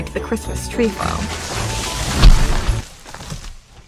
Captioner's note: tree falls